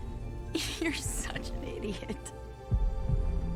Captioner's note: chuckle